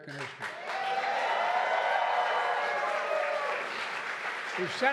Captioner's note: applause